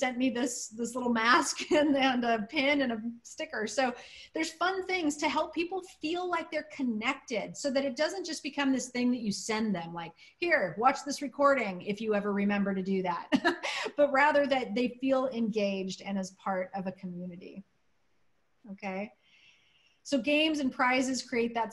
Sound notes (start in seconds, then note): 13.3 laughter